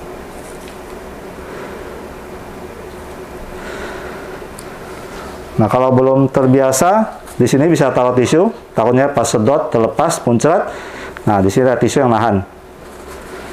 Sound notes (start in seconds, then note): 0.0 injecting damper sound; 3.4 inhale